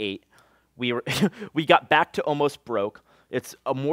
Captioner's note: laughs